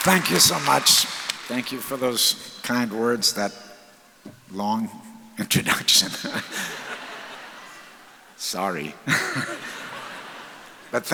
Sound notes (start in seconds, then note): 6.0 audience laughs; 6.2 laughs